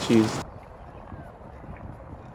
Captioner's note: baaaa